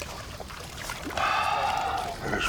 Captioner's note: sighs